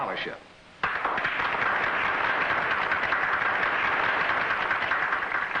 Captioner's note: applause